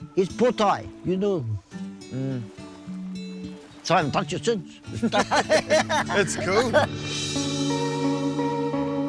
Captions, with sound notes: His pōtae, so I haven't touched it since (both laughing) - It's cool.